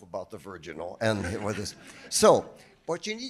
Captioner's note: audience laughing